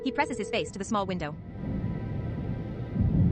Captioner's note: call is rings